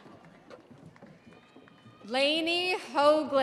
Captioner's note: audience cheering